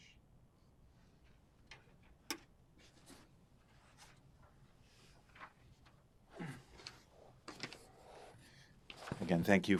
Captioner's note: pauses 8 seconds